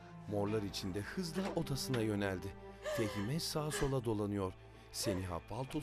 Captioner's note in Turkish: Ağlama sesi